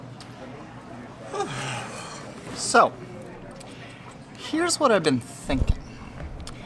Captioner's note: sighing